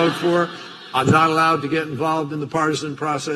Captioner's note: laughter